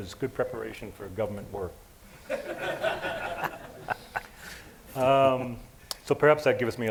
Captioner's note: laughter